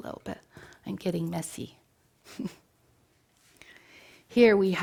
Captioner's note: chuckles